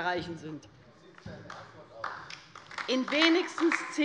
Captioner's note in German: Beifall bei der : Wie sieht es denn in Erfurt aus?